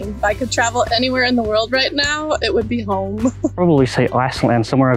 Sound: laughs

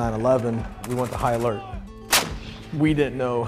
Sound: gun firing

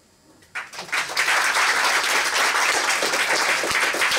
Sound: applause

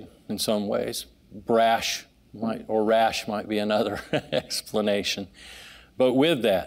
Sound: laughing

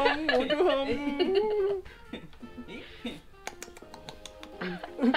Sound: A funny voice

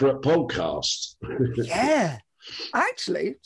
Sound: chuckles

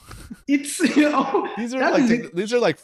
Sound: laughter

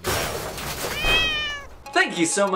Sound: glass breaking, cat meows

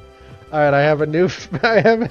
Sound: giggle

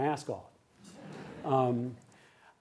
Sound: laughter

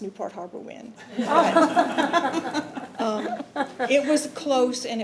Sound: committee laughing

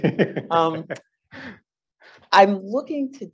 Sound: laughs

